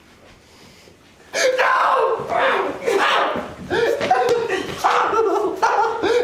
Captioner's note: shouting and struggling